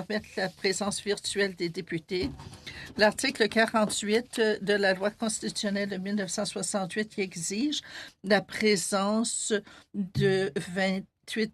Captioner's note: speaking French